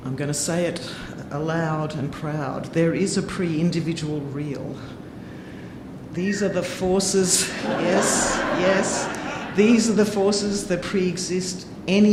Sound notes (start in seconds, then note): 6.9 audience member whistling; 7.4 audience laughing